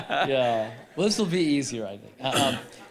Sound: laughing

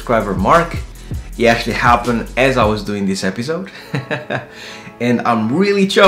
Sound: laughing

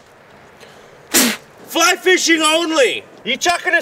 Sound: blowing

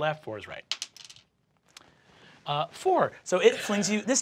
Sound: die clacks

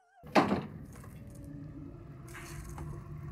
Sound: wall thuds

